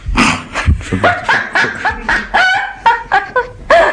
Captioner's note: laughter